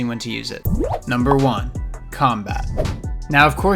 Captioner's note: air whooshing